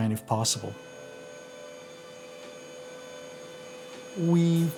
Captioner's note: machine noise